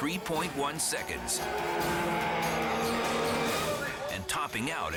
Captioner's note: engines revving